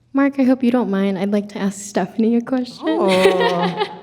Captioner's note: chuckling